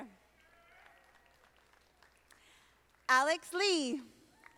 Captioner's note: audience applauding